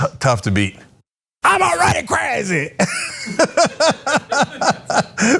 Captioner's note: laugh